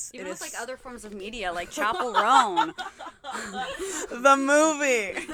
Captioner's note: laughter